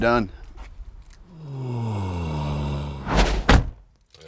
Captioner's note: moans